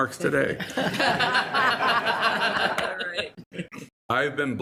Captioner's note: all laughing